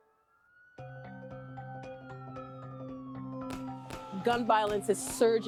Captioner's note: siren wailing